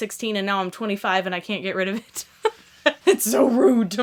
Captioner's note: laughs